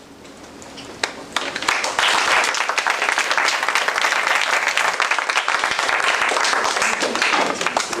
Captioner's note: applause